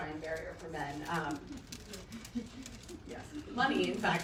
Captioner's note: chuckling